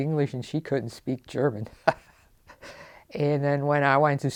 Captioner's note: laughs